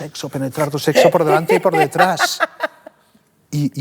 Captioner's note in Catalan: ríe